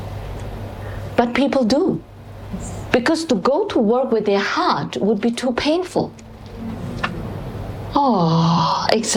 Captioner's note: audience sound in agreement; 觀眾發出贊同的聲音